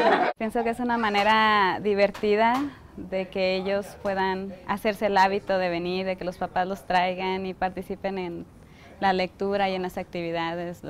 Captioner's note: speaking spanish